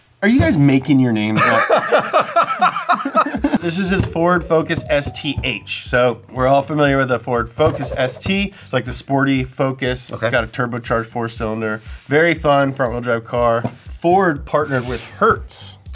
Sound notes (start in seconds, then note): 0.0 record whines; 1.4 laughs